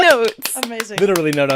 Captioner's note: claps